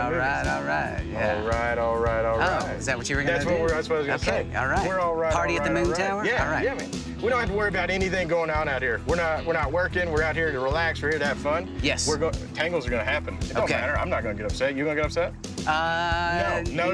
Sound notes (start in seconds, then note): none